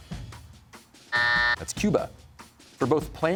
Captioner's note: buzzer sounds